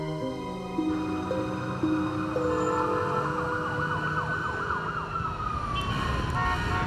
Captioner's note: horns honking; sirens wailing